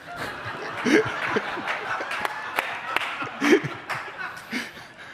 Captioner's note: audience laughing